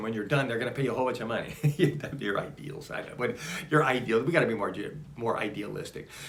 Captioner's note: laughs